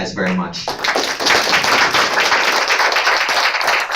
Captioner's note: applause